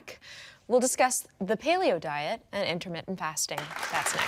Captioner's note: audience applauding